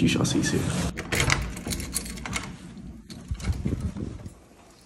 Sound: door unlocks and opens

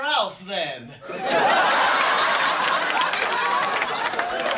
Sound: crowd; laughing and applauding

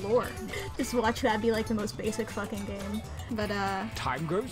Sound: through laughter

